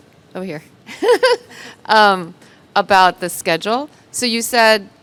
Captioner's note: laughs